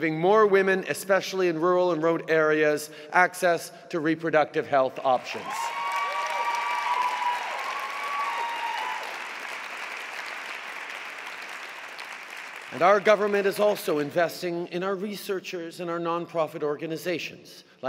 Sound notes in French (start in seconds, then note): 6.1 Acclamations et applaudissements